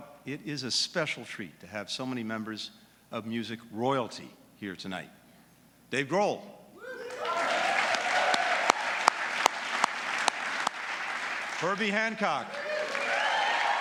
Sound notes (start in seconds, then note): 6.7 applause; 12.7 applause